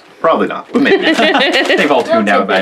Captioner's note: laughing